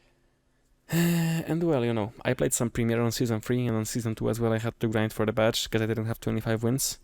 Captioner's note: sigh